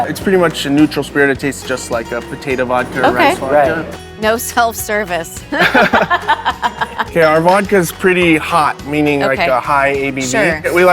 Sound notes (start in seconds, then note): 5.5 laughing